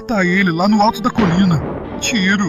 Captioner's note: gunshot